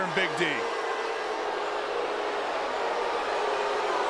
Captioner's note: audience jeers